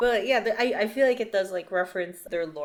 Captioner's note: none